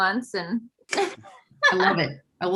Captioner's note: laughs